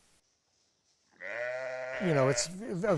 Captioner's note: sheep bleating